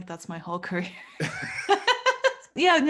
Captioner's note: both laughing